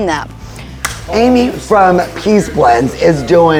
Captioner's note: hands clapping